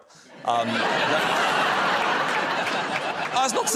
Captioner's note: laughter